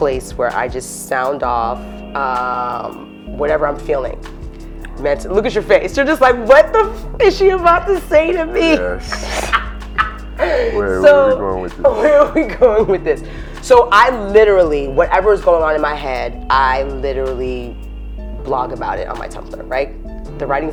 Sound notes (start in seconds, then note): 8.6 laughs